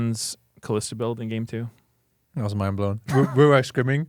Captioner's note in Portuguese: risos